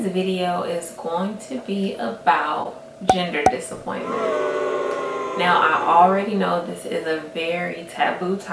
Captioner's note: crowd boos